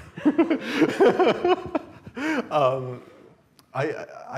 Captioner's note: laughter